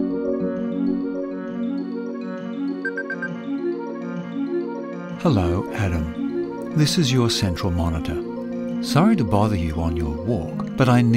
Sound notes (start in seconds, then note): 2.8 beep